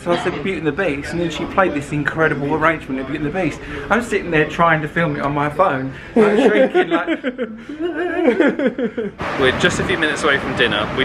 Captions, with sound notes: So I said, "Beauty and the Beast." And then she played this incredible arrangement of "Beauty and the Beast." I'm sitting there trying to film it on my phone. I'm shaking like. (mutters) - We're just a few minutes away from dinner.